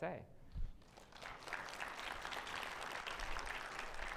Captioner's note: audience applauding